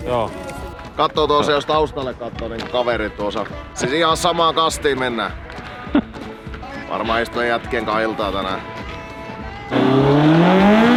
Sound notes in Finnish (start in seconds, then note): 5.8 naurahtaa